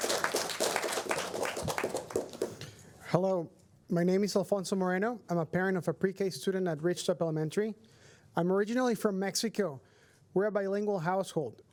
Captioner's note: applause